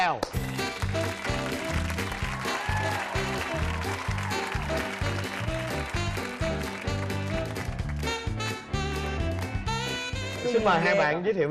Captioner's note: applause